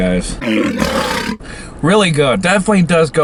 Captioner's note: lion roars